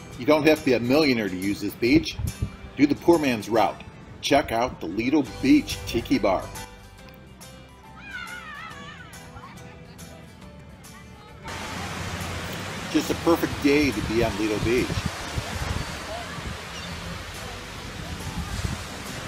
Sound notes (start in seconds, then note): 8.0 person screaming; 11.5 water splashing; 15.4 water splashing